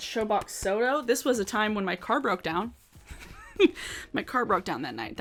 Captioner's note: laughs